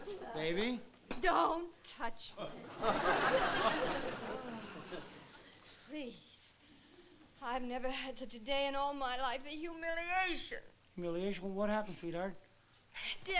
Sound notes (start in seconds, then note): 4.1 sighs